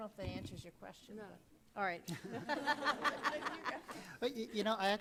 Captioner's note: laughs